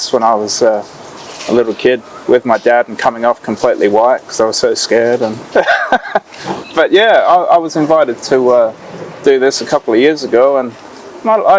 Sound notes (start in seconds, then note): 5.3 laughing